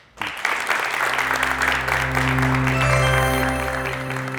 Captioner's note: applause